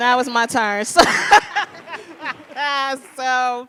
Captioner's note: panelists laugh